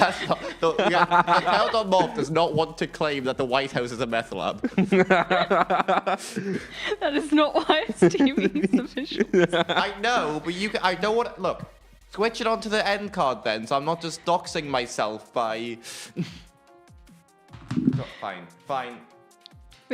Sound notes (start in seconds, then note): 4.5 laughter